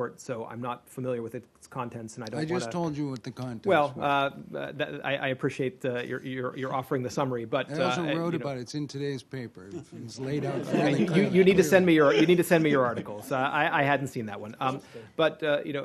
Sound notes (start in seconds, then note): 10.2 laughter